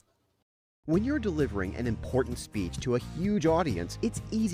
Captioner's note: voiceover